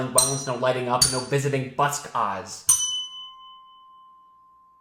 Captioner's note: bell dings; bell dings